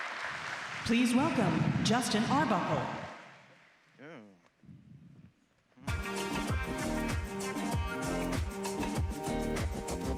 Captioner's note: applause